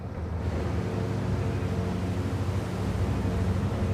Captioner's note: boat engine humming